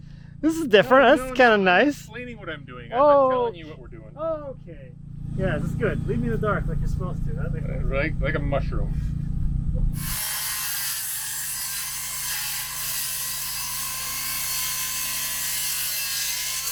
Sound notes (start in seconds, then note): 9.9 table saw whirring